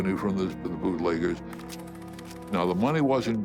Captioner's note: coin clangs